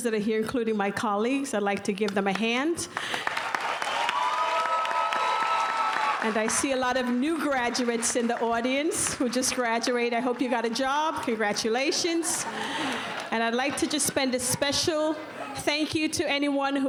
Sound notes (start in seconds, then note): 2.9 applause